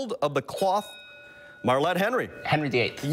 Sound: bell rings

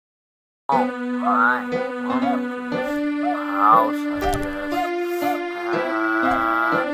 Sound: laughs

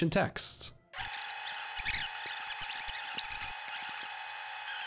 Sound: machine whirring

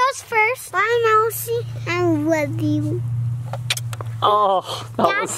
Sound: kiss

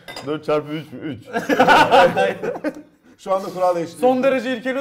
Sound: laugh

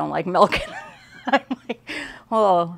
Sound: laughs

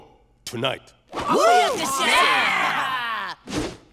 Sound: cheering

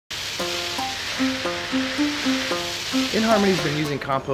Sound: water hitting leaves; delightful string music

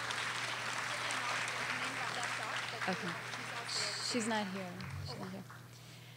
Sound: audience applauding

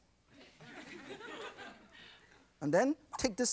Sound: audience laughs

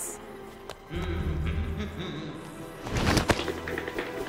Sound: humming

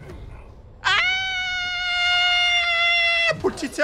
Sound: the manliest of screams

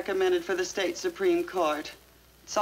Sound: none

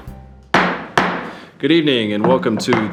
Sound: gavel bangs

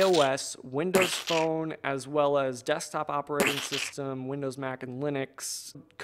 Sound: splat; splat

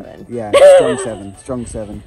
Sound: laughs

